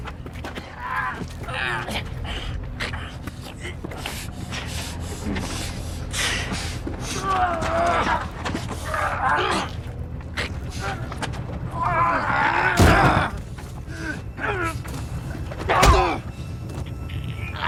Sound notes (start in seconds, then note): 7.1 both grunting; 13.2 both grunting